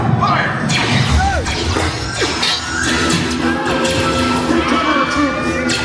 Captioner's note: blasters pew-pewing